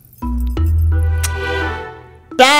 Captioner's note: Kisses